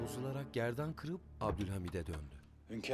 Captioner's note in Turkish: Kapı kapanma sesi